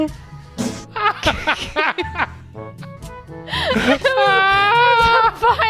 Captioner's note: farting; laughing